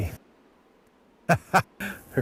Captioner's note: laughs